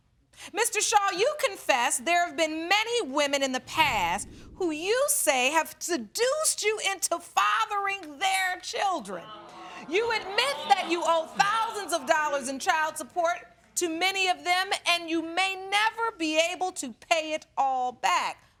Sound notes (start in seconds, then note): 8.1 audience groaning